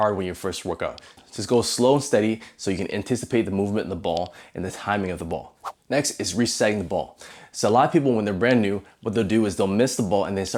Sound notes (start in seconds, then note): 5.6 air whooshing